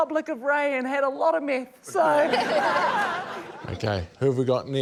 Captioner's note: laughter